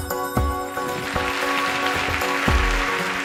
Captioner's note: applause